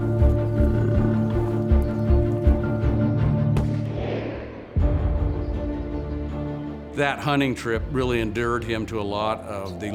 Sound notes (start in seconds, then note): 0.0 buffalo grunting; 3.2 fires rifle